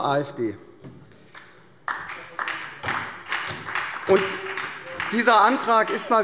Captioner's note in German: Beifall SPD, BÜNDNIS 90/DIE GRÜNEN und DIE LINKE